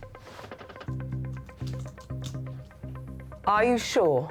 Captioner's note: keys clacking